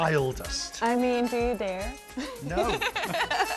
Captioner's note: laughs